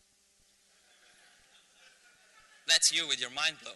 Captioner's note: laughter